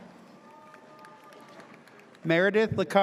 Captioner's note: audience cheers